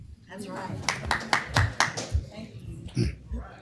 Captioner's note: applause